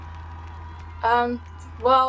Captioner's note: crowd clapping and cheering